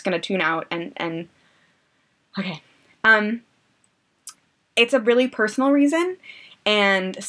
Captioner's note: deep breath